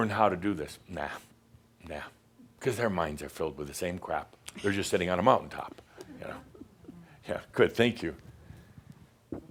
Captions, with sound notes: how to do this?” Nah. Nah, because their minds are filled with the same crap. They’re just sitting on a mountaintop (she giggles). Yeah. Yeah. Good. Thank you.